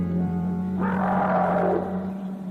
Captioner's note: alarming music; odd creature calls